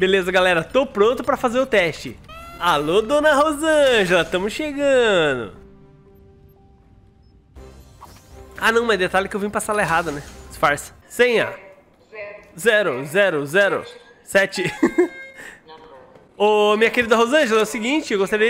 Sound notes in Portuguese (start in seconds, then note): 14.6 risos